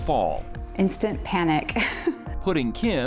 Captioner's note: laughs